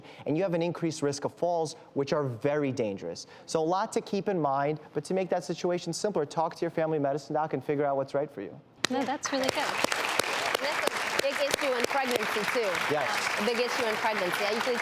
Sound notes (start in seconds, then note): 8.8 audience clapping